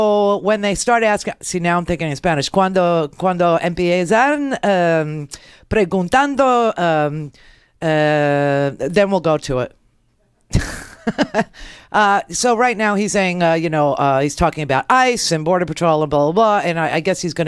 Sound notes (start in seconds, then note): 3.1 foreign language; 10.4 laughs